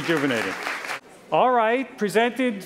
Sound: applause

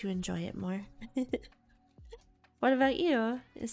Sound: giggles

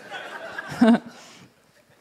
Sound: laughter

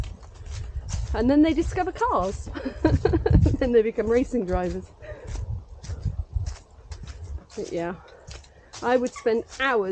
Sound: laughs

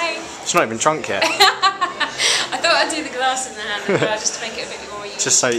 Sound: laughs

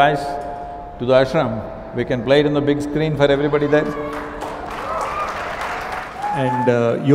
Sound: cheering/Applause

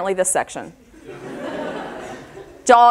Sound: audience laughter

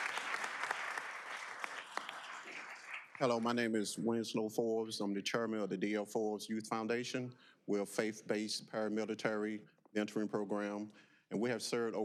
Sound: applause

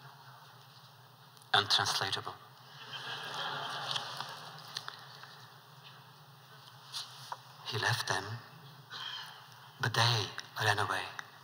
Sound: laughter

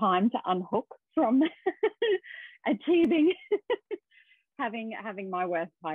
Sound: laughs

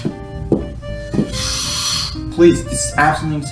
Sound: blows his nose out

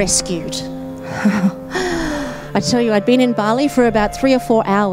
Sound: laughs nervously

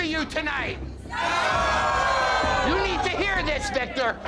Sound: crowd

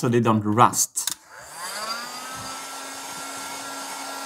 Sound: air dryer buzzing

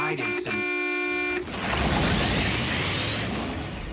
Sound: honk honk

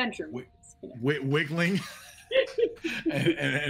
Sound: players laughing

